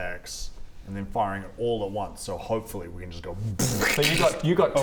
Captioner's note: brrrkckk